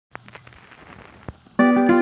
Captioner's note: static old record sounds; jazzy, upbeat, old-timey music plays